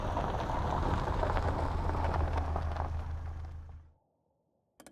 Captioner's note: engine rumbling